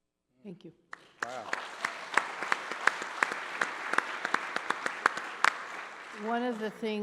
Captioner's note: applause